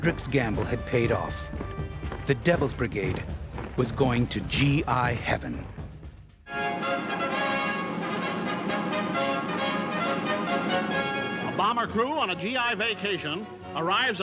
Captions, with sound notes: The Devil's Brigade was going to GI Heaven. (trumpet music) - [Voiceover] A bomber crew on a GI vacation, arrives at an Air Force rest camp on the Italian seashore.